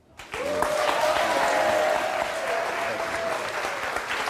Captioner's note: audience applauds